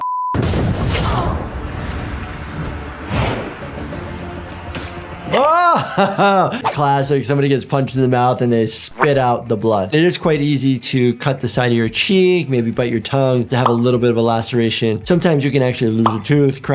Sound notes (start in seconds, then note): 0.4 air booming; 1.3 dramatic symphonic music